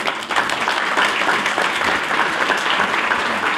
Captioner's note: applause